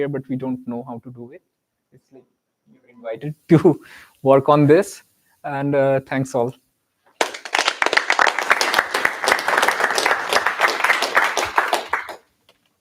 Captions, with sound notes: But we don't know how to do it. It's like you're invited to work on this and thanks all. [APPLAUSE]